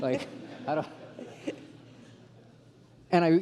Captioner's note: laughter